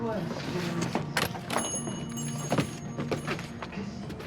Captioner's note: shop bell ringing